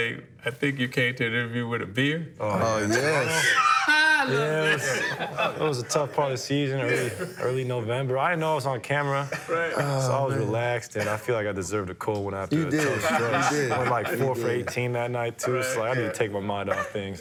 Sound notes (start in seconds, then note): 5.6 laughter